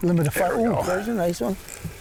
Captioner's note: grunts; fishing rod whirring